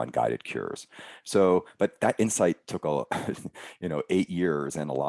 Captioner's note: chuckling